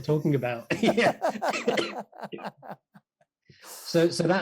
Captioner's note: laughing